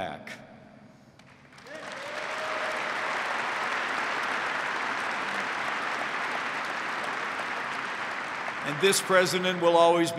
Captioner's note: applause